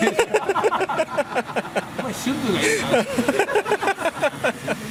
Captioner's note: laughs